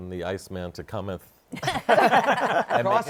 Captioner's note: laughter